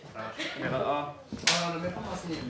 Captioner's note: clap